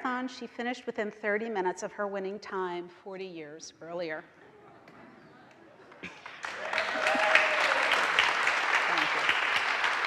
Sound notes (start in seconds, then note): 5.8 audience applauds